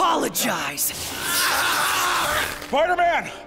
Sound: screaming

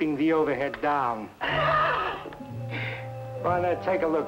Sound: Malamos chuckling

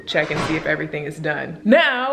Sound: door clunks

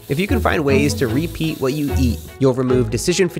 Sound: meat sizzling

